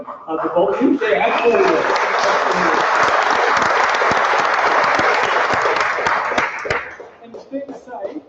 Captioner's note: applause